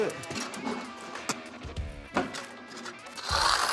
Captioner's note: spits